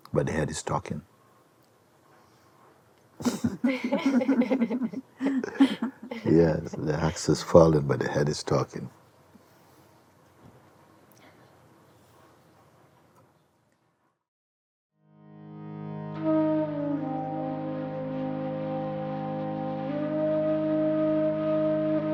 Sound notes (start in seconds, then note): 3.2 laughter